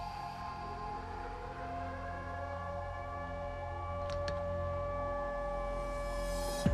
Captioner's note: sirens